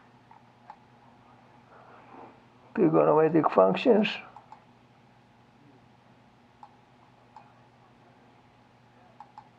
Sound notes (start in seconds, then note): 6.2 mouse clicking